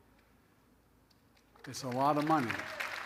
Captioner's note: applause